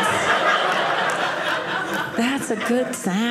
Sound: audience laughing

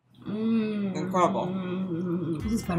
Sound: moaning

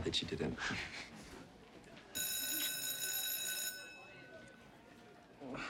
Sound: bell rings

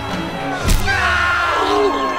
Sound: crowd gasps; screams in Pain

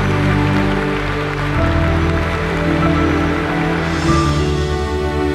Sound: audience applauding; gentle music

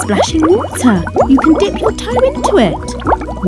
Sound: bubbling water

